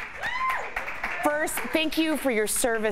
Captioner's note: applause